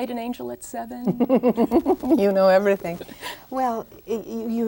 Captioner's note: laughs